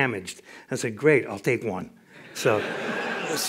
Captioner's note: laughter